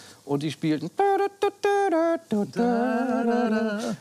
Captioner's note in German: Er macht die Melodie nach